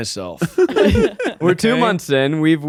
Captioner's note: all laughing